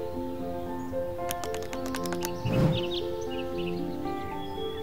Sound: birds chirping

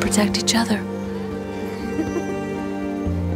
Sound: chuckles

